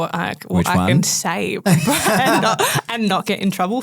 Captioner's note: group laughing